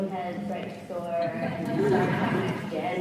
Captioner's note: audience laughs